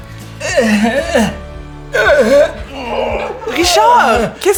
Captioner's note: Riz'shar grunting from strenuous effort